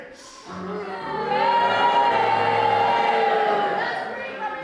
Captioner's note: audience boos